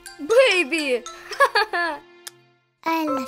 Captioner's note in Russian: Смех Гоши